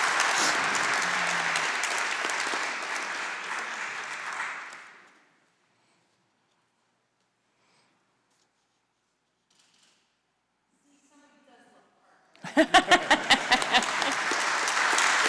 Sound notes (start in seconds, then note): 0.0 applause; 1.4 laughter